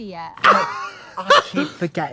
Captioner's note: Trixie chortles